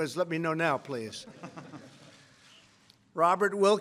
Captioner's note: laughter